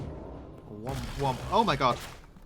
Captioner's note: mimics portal noise